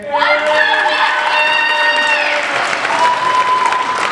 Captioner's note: applauding